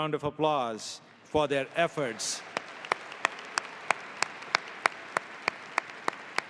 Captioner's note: audience applauding